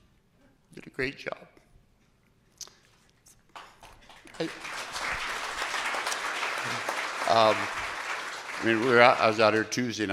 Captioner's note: applause